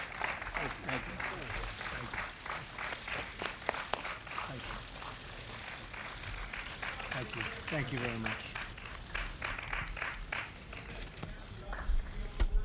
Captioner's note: applause